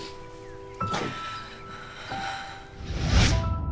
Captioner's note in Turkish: Müzik - Duygusal; Nefes sesleri; Efekt sesi